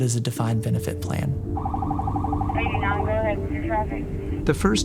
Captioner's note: police siren wailing, people talking on radio